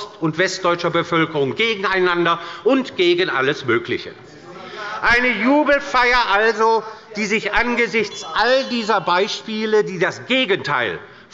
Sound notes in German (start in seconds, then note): 5.4 Anhaltende Unruhe – Glockenzeichen des Präsidenten